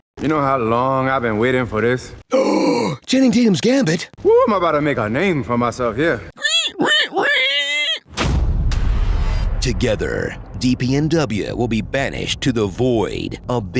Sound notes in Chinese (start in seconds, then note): 6.3 開心到發出豬叫聲